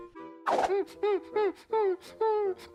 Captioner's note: tail whooshing; whimpering